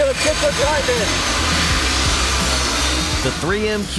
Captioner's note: grinders whirring